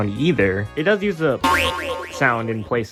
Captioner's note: boi-oi-oing sound effect